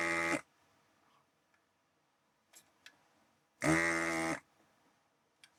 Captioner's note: buzzer Buzzing